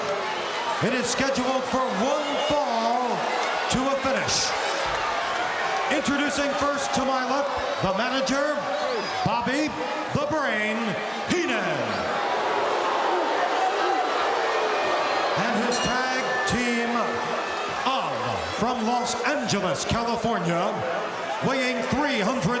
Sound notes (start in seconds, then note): 12.0 audience shouting; 15.2 bell rings